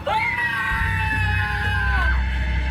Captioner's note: screams